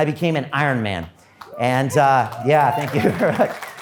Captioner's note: audience applause